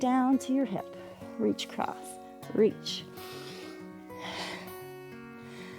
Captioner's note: inhales and exhales